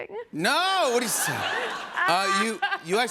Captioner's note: laughter; mock crying